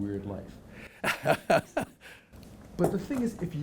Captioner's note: chuckling